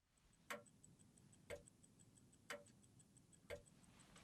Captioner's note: pocket watch ticking